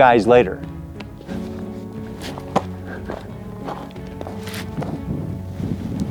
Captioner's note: suspenseful music continues; shuffling